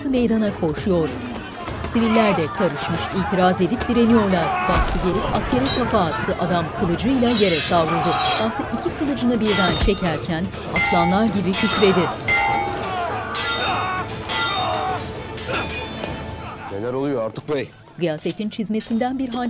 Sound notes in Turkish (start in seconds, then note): 1.4 Bağırma sesleri; 4.2 Dövüş sesleri; 7.1 Kılıç sesleri; 7.1 Bağırma sesi; 9.3 Müzik - Gerilim; 10.6 Dövüş sesleri